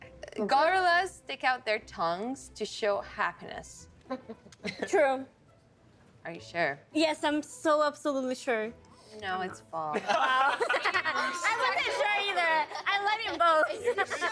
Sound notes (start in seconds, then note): 10.0 all laughing